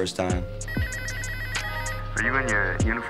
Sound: phone ringing

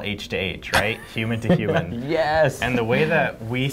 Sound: laughs

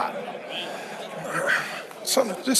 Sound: audience laughing

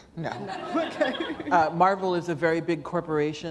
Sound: laughter

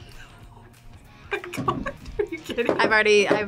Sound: laughs

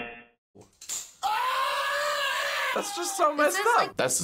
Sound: buzzer; slowed down scream; man screams

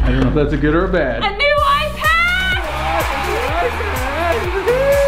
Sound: crowd cheering

